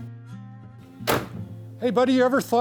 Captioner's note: car door closes